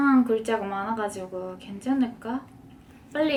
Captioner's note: Korean